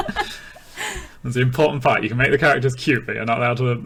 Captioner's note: laughing